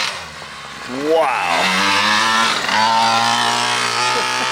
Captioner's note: motor revving